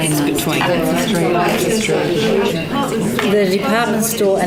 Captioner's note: participant chatter